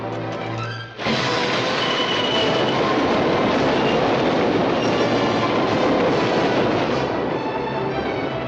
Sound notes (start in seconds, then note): 0.9 train rumbling